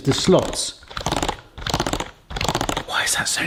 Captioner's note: bread stick maker clicking